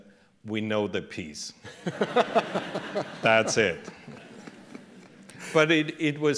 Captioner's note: laughter